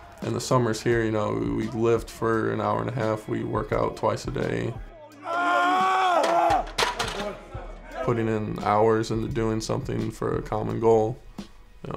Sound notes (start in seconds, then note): 4.6 yells